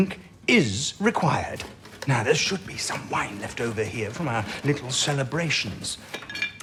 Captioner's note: bottles knocking together; glasses chink, he pours wine, clinks the glasses together